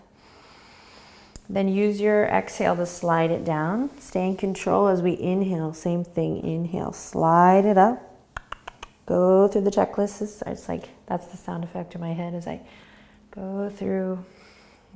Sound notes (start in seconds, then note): 0.1 inhaling; 8.3 clicking tongue